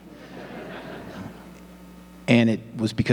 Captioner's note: audience laughing